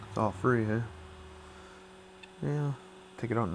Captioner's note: machine hums